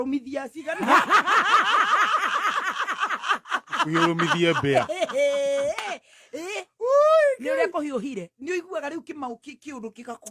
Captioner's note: laughter